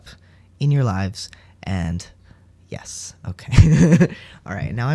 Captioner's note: laugh